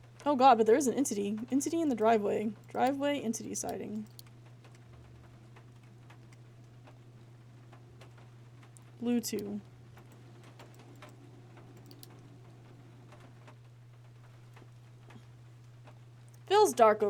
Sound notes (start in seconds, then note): none